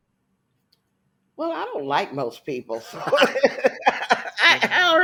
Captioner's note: laughs